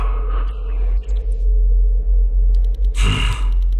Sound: starts beeping wildly

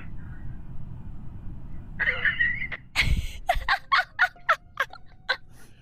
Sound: laughs

